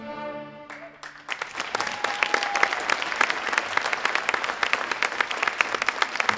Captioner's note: audience applauding and cheering